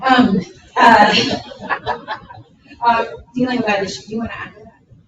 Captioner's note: participants laughing